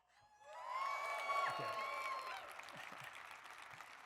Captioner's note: audience cheering; audience applauding